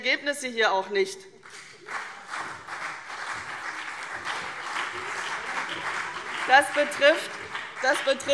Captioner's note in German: Beifall CDU und BÜNDNIS 90/DIE GRÜNEN - Zurufe